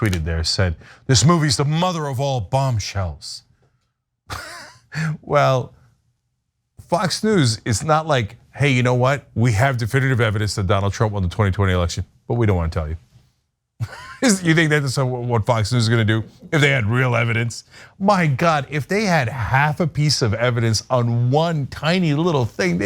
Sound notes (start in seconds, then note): 4.3 laugh; 13.8 laugh